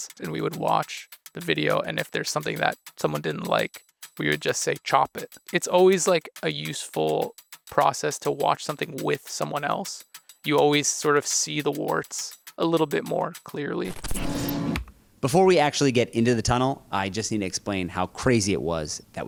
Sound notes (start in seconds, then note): 13.8 static crackling; 14.1 crane whirring